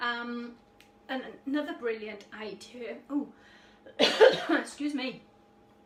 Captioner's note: coughing